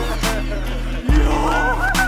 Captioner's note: clapping!